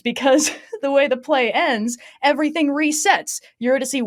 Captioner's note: laughs